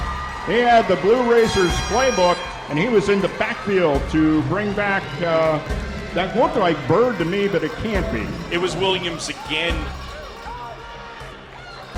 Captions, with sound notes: He had the Blue Racers play book. He was in the back field to bring back That look like bird to me. But it can't be. It was williams again. (Arena Crowd)